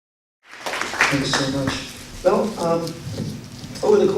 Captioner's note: applause